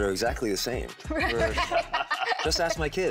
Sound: all laughing

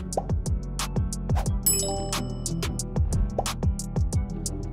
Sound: text chimes

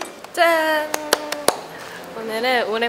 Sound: round of applause!

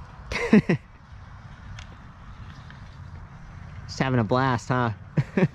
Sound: laughing

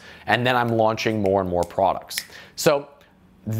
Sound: snapping fingers

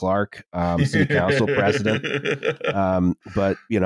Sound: laughs

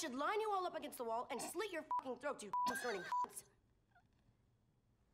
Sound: beep

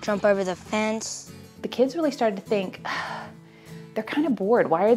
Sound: sigh

